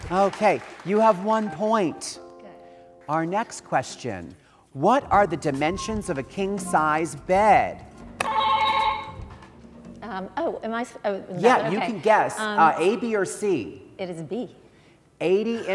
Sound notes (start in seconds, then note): 8.2 buzzer ringing